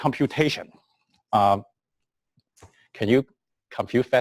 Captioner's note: pause